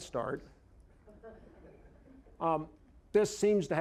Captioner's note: audience chuckling